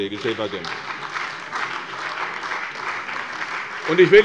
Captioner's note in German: Beifall bei der CDU und dem BÜNDNIS 90/DIE GRÜNEN